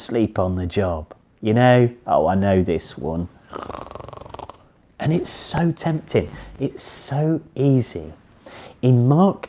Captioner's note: snores